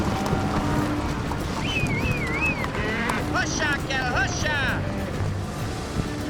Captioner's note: whistling, prompting cattle